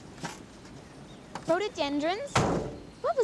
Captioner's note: none